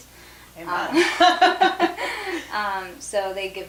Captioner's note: laughs